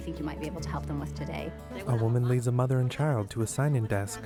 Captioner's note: conversation in spanish